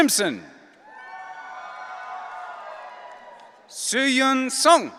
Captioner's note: audience cheering